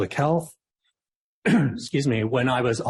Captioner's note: coughs